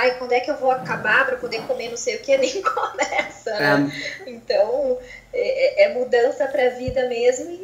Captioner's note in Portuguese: risos